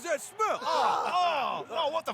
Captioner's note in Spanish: gente gruñendo